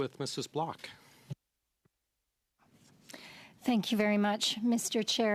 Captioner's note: speaking French